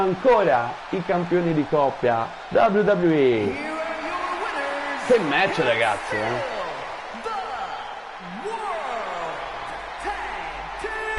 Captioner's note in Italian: Applauso